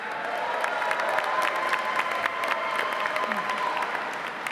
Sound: audience applauding

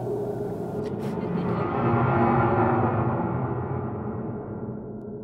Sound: laughing

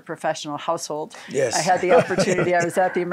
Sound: laughs

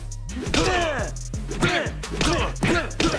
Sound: grunting

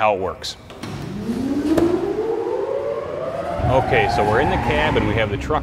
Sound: whirling noise

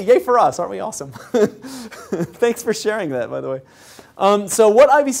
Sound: laugh

